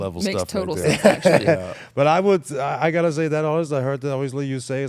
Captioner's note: laugh